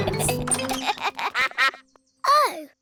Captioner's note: giggling; quacks